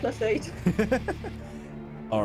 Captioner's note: laughing